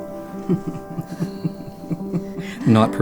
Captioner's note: chuckling